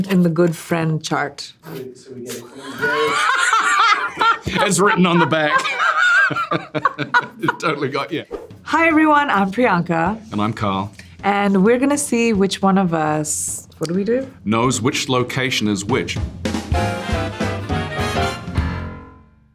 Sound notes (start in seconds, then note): 2.4 Priyanka laughing; 5.8 both laughing; 16.2 upbeat jazzy music